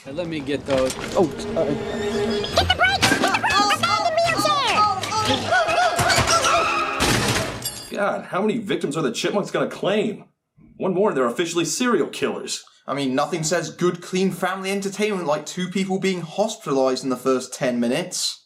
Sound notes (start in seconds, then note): 2.6 Jackie screams; 5.5 Jackie screams continues; 5.9 sound of brakes and crashing